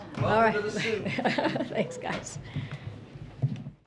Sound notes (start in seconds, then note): 0.3 laughs